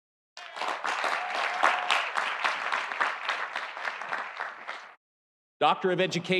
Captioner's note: audience cheering; audience applauding